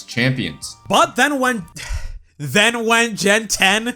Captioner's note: sigh